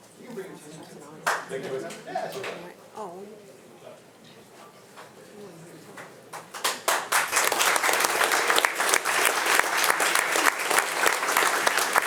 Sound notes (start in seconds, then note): 3.3 speaks faintly; 6.3 attendees applauding